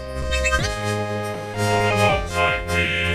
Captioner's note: chirps